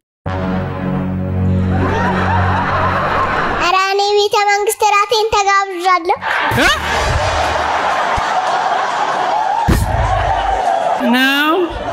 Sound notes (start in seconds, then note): 1.7 laughter; 6.2 laughter